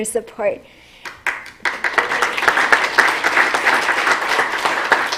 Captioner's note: applause